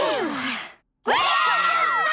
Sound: cheering

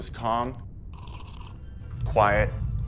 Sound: tea slurping

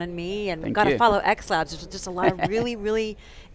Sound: laughs

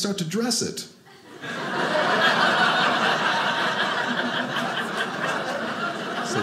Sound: audience laughing

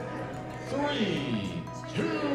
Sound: people chattering distantly

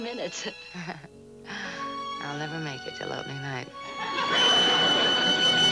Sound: chuckling

